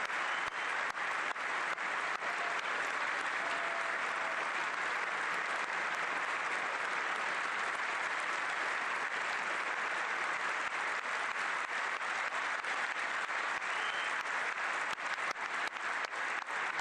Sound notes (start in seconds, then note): 0.2 applause; 2.2 cheering